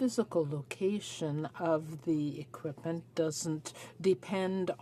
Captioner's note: speaking French